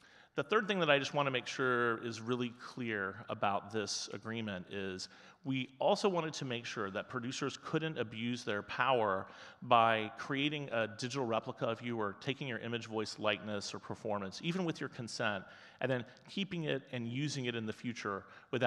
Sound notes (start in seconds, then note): none